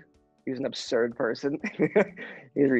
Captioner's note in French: rire